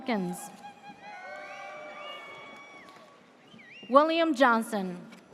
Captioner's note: audience cheers